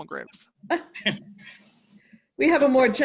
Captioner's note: chuckling